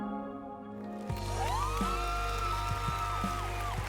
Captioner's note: cheering and applauding